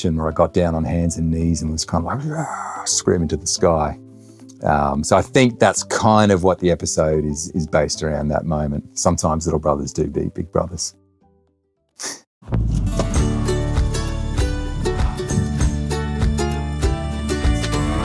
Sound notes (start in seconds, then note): 2.1 playfully screaming; 12.1 chuckles; 12.6 bright music